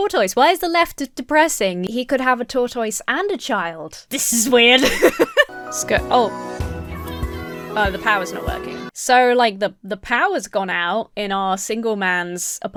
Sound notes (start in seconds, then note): 4.7 laughs; 4.8 uplifting music; 6.7 family cheers